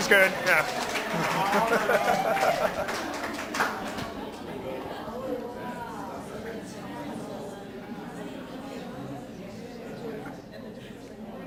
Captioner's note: audience claps